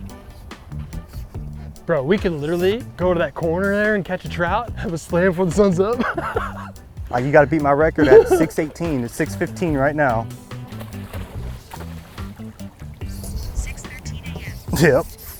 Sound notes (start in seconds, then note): 6.3 laughing; 11.0 water splashing